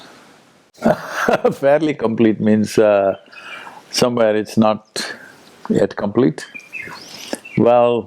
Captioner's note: laughs